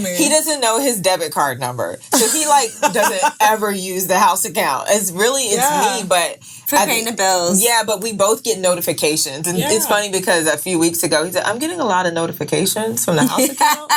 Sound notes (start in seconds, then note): 2.1 laughing